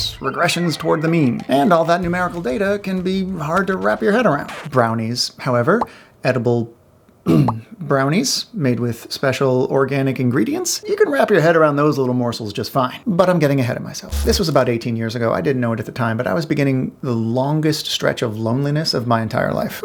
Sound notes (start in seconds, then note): 7.2 ahem